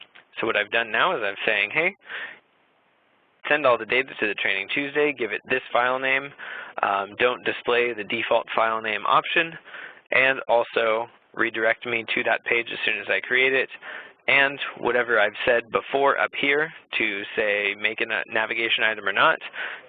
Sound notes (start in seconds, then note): none